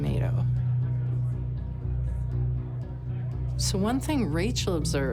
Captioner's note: dramatic music; people chatting